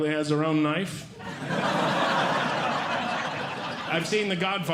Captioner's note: audience Laughing